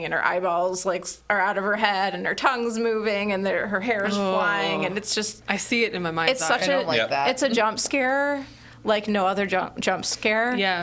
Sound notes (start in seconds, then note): none